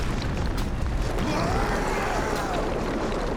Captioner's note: screaming